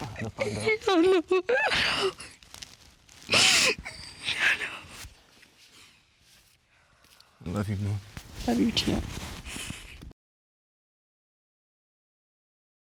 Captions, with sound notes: -No, no. - I know, I know. [sobs] I know. -Love you, Mom. -Love you, too.